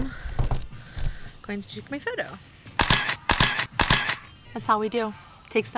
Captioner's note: camera shuttering